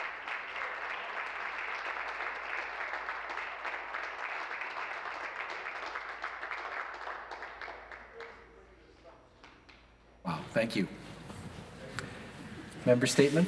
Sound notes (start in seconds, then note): 1.7 applause